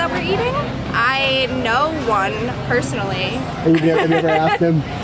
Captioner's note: laughs